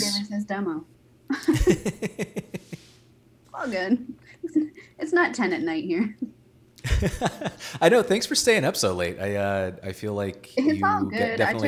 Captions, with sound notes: - Under the, yes. - It says demo. (both laughing) It's all good. It's not 10:00 at night here. (laughing) - I know, thanks for staying up so late. I feel like-- - It's all good.